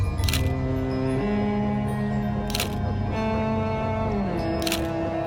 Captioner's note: dramatic music; camera shutter clicking; dramatic music; camera shutter clicking